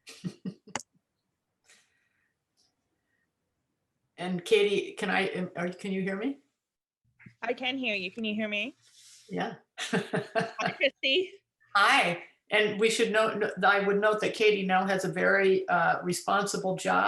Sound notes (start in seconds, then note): 0.1 laughter; 9.8 laughs